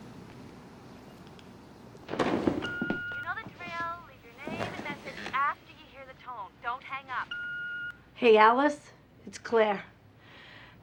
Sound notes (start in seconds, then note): 2.5 beeping; 2.5 on phone